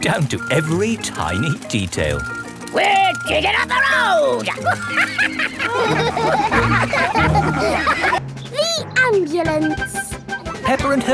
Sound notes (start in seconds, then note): 4.1 chuckles; 6.3 all laugh